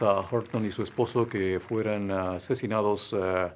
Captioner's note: applause